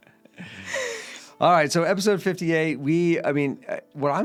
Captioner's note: laughing